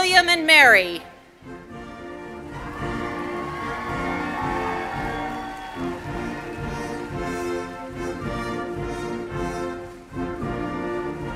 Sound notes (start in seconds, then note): 6.9 cheers and applause